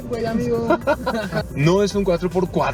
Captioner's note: laughter